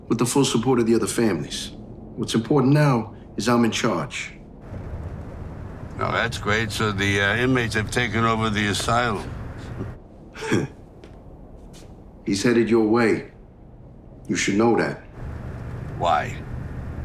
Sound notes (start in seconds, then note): 9.8 scoffing; 10.3 laughing